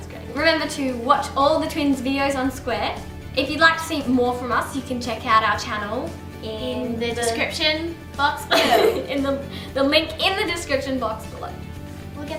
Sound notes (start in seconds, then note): 8.5 laughs